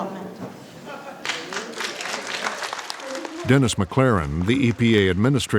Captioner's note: applause